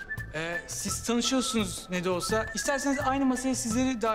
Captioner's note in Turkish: none